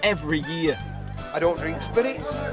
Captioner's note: background chatter